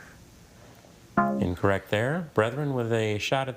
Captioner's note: text buzzing